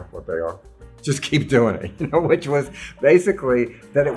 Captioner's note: laughs